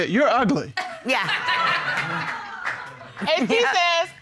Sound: audience laughing

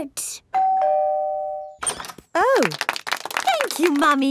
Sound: doorbell ringing; crowd applauding

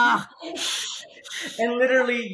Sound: hissing noises

